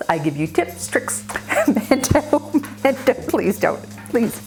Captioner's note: laughs